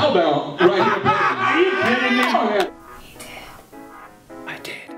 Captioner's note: laughter